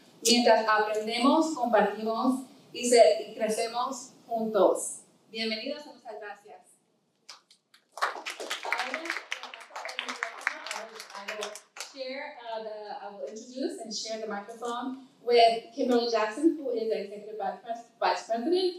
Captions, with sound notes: (audience applauding) I'll introduce and share the microphone with Kimberly Jackson who is the executive vice president